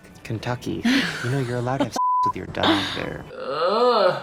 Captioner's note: beep